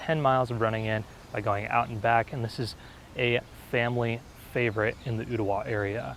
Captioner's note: birds Chirping